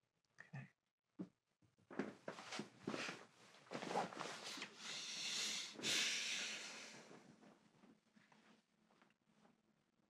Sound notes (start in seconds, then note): 1.8 rustling; 5.3 he sighs